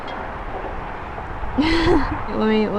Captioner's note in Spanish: riendo